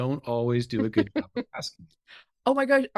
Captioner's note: chuckling